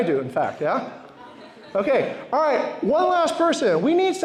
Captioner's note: laughter